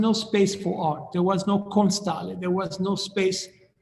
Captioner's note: speaking in foreign language